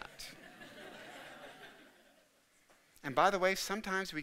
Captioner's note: audience laughing